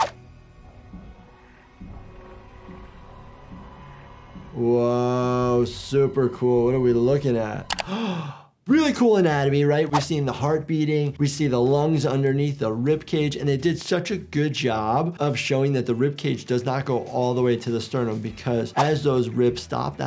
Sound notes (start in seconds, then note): 0.0 dramatic music; 7.8 doctor gasps